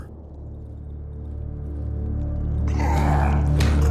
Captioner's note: savage snarling